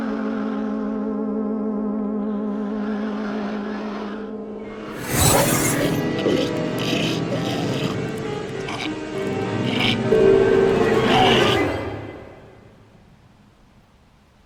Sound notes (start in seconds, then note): 4.7 terrifying music; 5.1 Michael gags